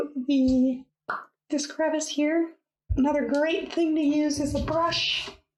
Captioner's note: pop!